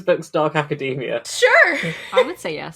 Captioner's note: laughing